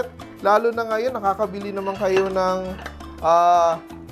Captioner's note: clang